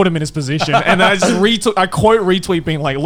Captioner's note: laughing